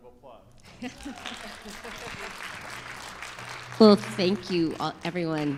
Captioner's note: audience applauding